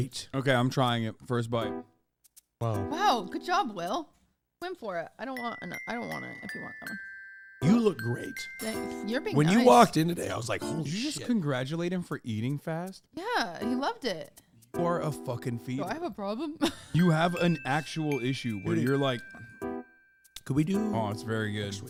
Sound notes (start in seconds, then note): 16.4 laughs